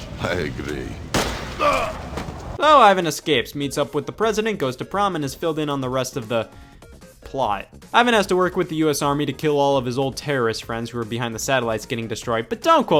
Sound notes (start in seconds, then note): 1.1 gun fires; 1.5 Molotov groans